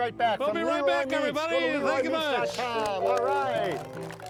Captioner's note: applause; piano music